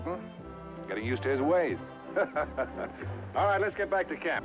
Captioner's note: laughing